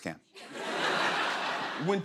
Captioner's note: laughter